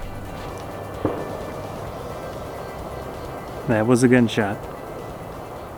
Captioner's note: pow sound